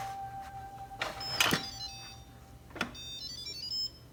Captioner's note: machine beeping